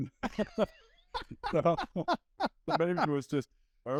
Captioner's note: both laughing